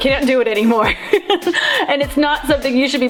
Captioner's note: laughs